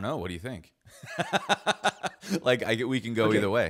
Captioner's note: laughs